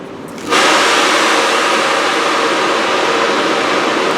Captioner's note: A locomotive lets out a loud noise